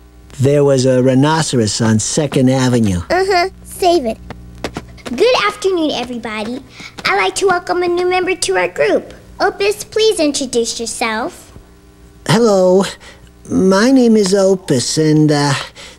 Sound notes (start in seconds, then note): none